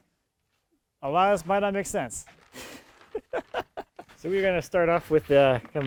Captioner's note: laughs